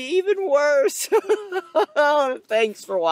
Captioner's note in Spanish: Risas angustiosas